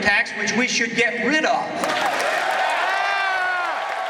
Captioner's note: cheering